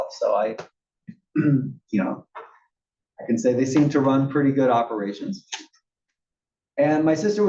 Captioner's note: cough